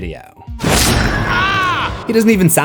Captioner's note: screams